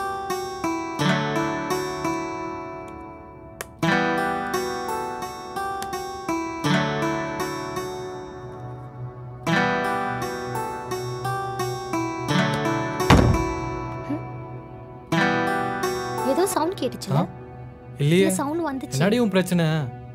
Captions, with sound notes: [thud] Did you hear that sound? - No. - No, I heard a sound. What is your problem?